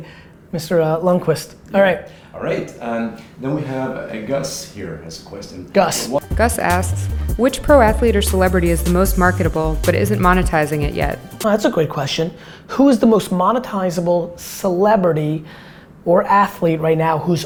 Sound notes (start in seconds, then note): 6.4 voiceover